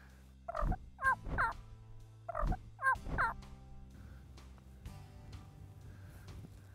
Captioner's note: turkey sounds